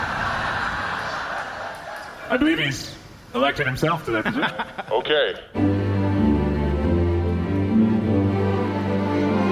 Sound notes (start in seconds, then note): 2.3 Belmont clacks; 8.7 transition music